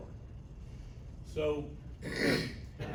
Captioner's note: clears throat